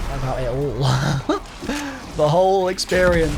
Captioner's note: chuckles